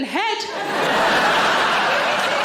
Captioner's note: audience laughing; audience applauds